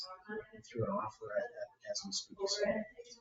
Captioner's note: speaks distantly